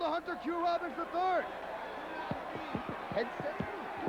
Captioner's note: crowd cheering